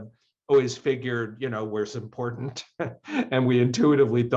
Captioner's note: chuckles